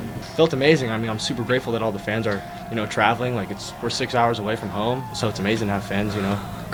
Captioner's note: cheers